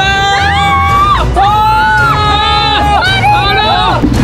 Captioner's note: screaming